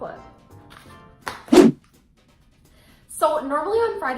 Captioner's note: whoosh